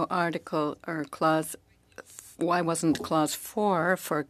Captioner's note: speaking French